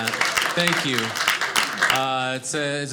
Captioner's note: audience laughing